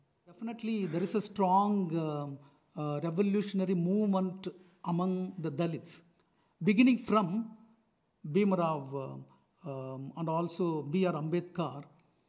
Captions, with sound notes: Definitely there is a strong revolutionary movement among the Dalits beginning from (speaking foreign language)